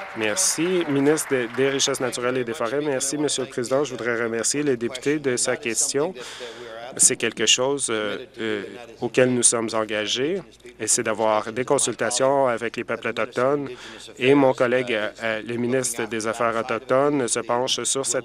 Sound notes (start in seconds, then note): 2.0 applause